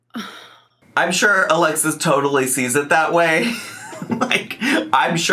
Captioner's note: chuckles